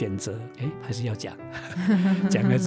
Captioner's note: haha